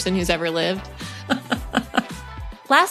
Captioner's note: laughter